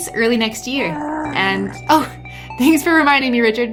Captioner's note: makes baby sounds